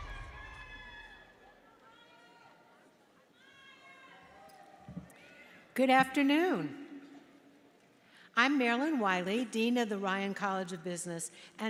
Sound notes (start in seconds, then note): 1.6 audience murmurs